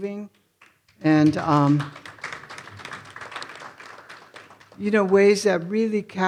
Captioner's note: audience applauding